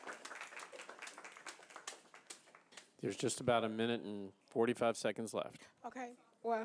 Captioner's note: applause